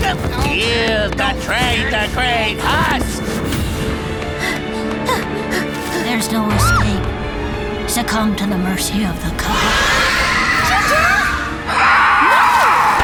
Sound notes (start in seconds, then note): 6.6 screams; 9.4 screech